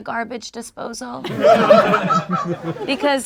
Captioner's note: group laughs